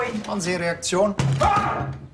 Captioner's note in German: Schrei